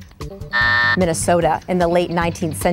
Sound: buzzer going off

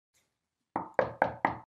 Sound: knock on door

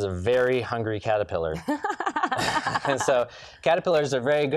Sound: laughs

